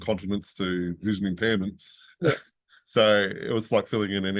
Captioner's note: laughs